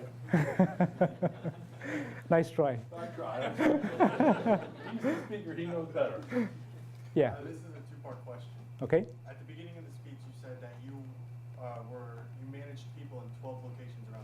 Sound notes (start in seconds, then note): 0.3 laughs; 3.0 audience laughs